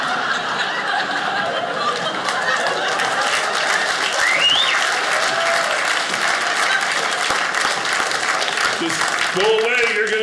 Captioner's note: audience laughing; audience applauding